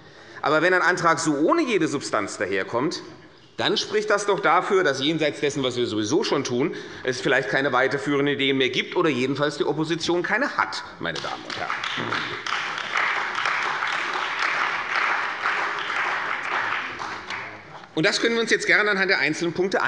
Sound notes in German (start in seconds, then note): 11.1 Beifall bei der CDU und dem BÜNDNIS 90/DIE GRÜNEN